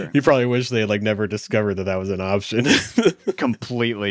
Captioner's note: laughs